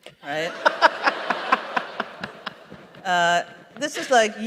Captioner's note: laughter